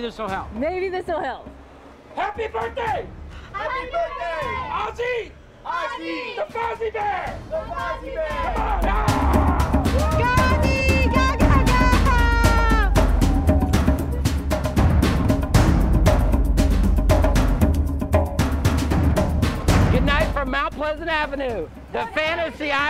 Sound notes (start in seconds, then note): 9.0 shouting; 12.9 drums beating